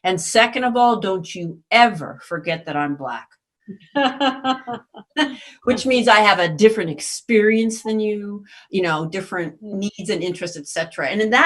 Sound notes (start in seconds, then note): 3.7 chuckling